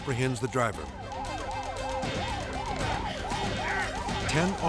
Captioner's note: sirens screaming